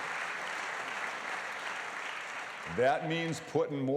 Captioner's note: applause